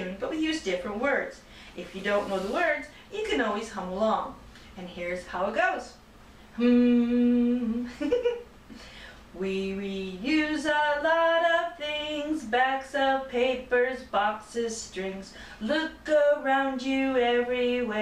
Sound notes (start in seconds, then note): 6.5 humming; 7.8 giggling